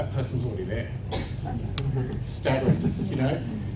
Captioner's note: audience chuckles